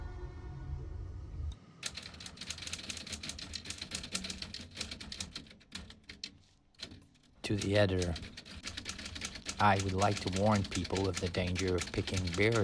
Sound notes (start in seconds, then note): 2.3 keys clacking